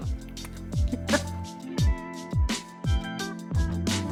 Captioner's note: laughing